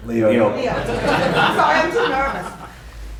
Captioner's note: audience laughter